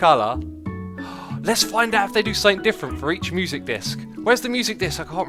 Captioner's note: gasp